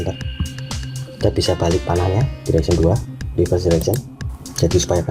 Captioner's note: click